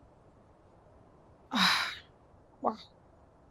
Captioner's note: sighs